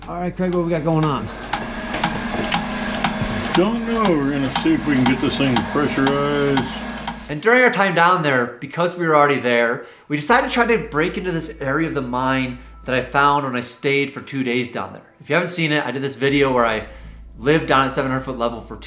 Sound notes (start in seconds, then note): 1.2 pump clicking